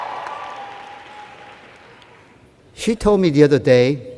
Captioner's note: cheers